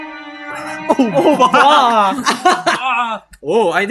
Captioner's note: laughs